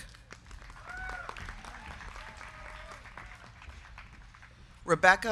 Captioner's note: crowd clapping; crowd cheering